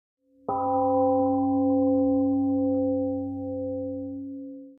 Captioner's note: temple gong rings and fades